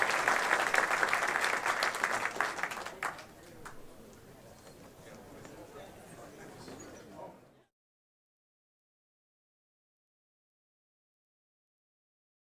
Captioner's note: applause